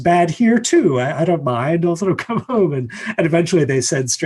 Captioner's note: laughs